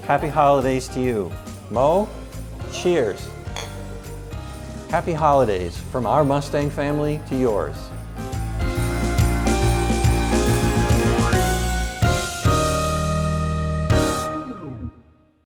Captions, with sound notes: Happy holidays to you. Mo, cheers. (glasses clinking) Happy Holidays from our Mustang family to yours. (festive music continues)